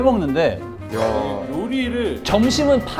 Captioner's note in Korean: 감탄